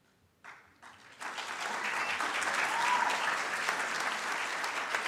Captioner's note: audience cheers